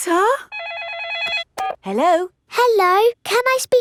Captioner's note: phone rings